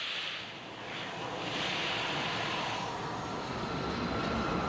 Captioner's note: train leaves